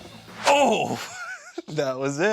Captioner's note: laughing